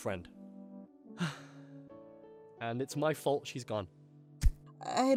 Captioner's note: sigh